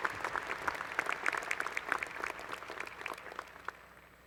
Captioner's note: applause